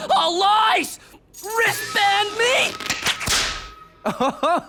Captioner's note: bands snap